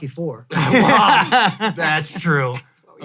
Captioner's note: laughs